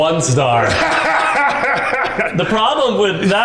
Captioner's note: laughing